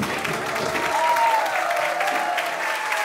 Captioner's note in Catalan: aplaudiments